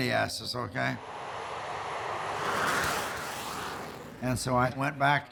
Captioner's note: jet roaring